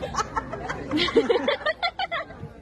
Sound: laughter

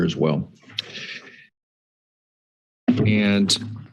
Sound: silence

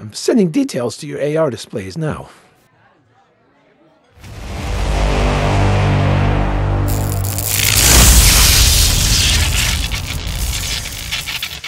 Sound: deep tones and electricity crackling

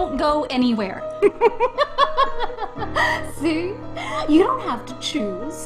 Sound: laughs

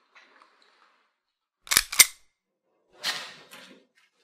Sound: cocks gun

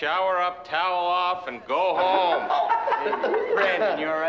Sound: all laughing

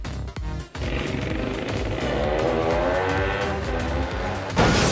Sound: 2-stroke sounds

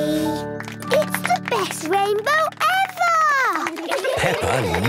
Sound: laughter

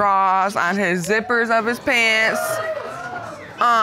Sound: audience exclaiming

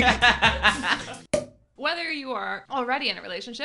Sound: laughing

